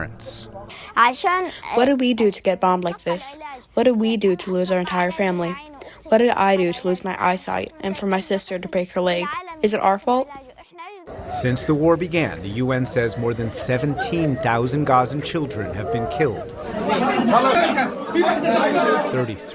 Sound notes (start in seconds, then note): 2.2 through translator